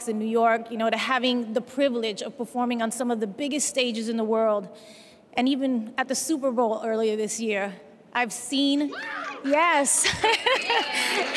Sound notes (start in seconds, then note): 7.7 cheers and applause; 10.0 laughs